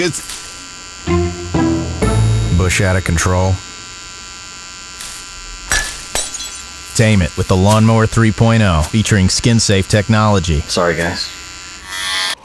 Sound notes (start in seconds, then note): 0.3 trimmer buzz; 5.7 glass shatters; 11.8 trimmer buzz